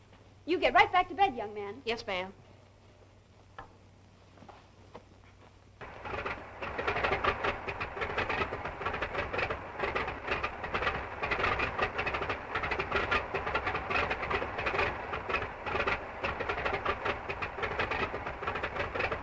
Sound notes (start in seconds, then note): 5.9 engine rattling